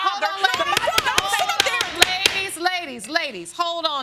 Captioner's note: gavel banging